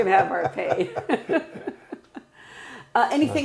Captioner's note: laughing